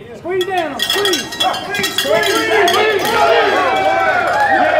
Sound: bell jangling; men cheering; clapping

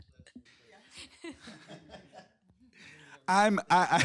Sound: laughs

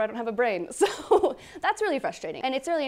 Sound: laughs

